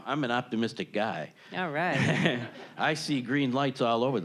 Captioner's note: audience laughing